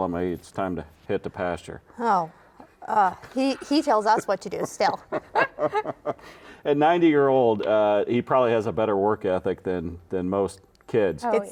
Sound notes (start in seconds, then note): 4.5 laughing